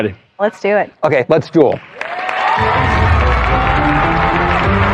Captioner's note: cheering and applause; dramatic music